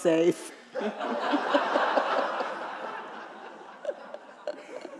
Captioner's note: audience laughing